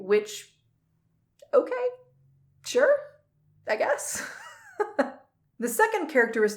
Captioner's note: chuckles